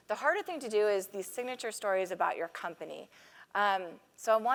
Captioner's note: none